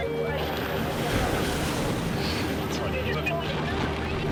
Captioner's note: waves crashing; dramatic music continues